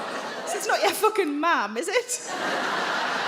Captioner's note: crowd laughs